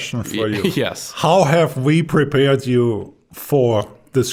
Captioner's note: chuckling